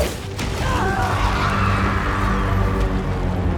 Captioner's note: all screaming